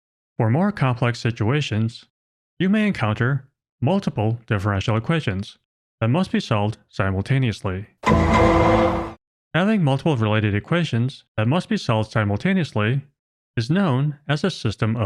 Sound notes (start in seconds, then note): 8.0 dramatic sound effect